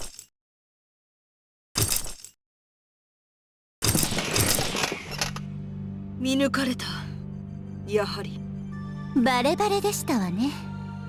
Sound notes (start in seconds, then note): 0.1 silence